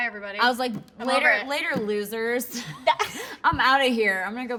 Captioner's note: both laughing